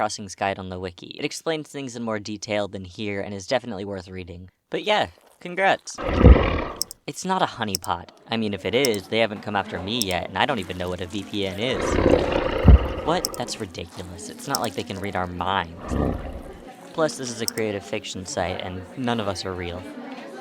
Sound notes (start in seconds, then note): 6.0 snarls; 11.6 growls